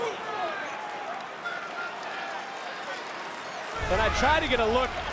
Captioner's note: audience applauds and cheers